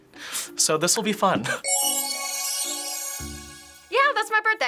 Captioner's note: shimmering noise